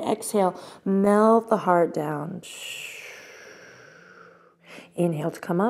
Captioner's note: exhale breath